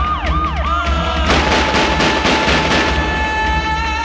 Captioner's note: gun Firing